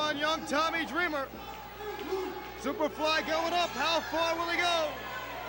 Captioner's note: crowd chatters